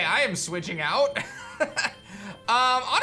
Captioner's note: chuckles